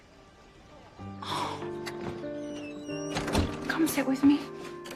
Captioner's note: sighs